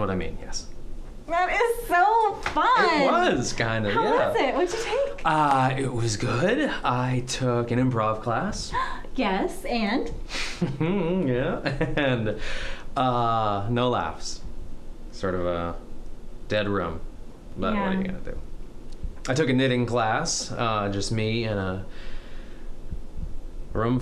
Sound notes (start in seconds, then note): 10.6 laugh